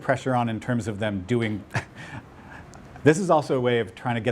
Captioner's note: laughs